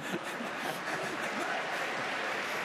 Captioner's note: applause